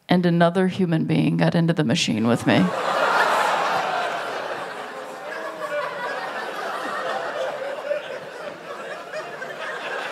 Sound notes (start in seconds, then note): 2.3 laughter; 3.0 groans